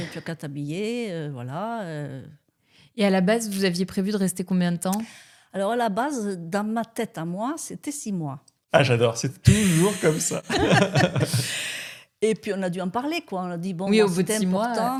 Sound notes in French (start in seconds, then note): 9.4 rires